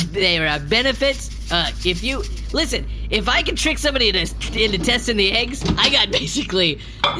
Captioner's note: sprinkling something